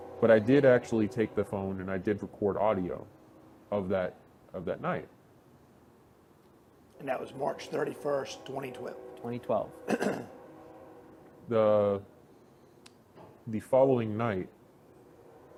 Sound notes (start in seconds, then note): 10.8 street noise